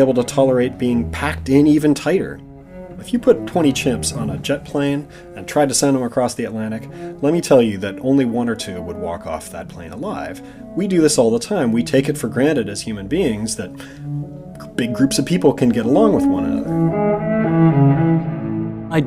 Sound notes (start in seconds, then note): none